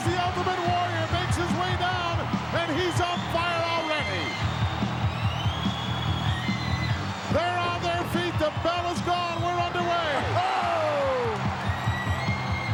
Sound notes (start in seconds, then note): 4.7 crowed cheering; 4.7 frenetic music continues